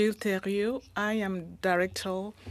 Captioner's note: speaking French